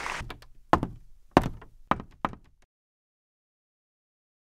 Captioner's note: footsteps